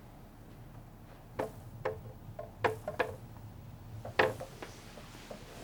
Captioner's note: tapping against window